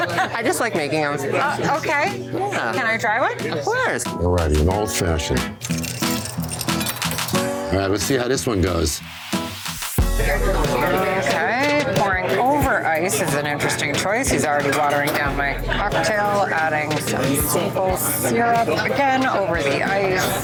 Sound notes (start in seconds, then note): 5.6 ice clinking